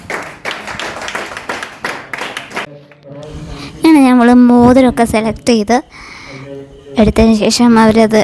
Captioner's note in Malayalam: കരഘോഷം